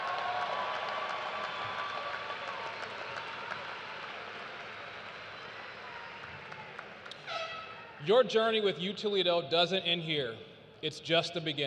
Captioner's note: cheers and applause